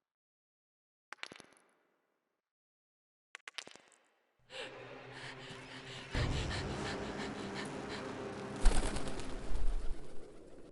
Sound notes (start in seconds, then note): 1.1 pop; 3.2 crack; 8.6 flapping